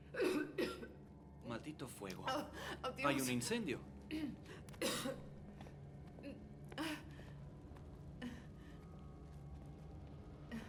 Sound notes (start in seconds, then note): 0.1 coughing loudly